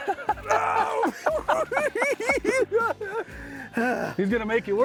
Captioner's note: cackling